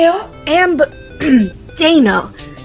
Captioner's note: clears throat